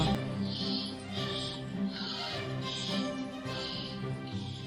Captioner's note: breathing heavily